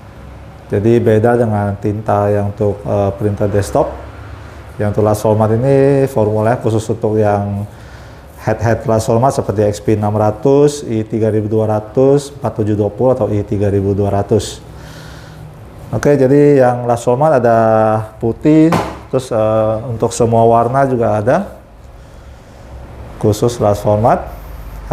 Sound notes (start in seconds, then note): 18.7 bottle noise